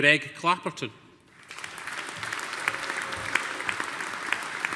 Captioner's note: audience applauding